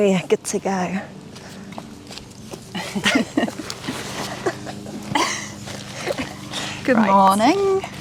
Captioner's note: giggling